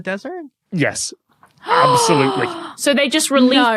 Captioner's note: gasps